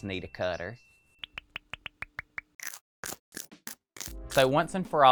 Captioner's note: picture pinging